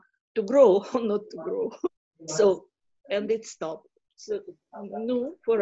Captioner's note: laughing